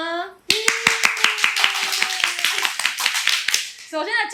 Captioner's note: clap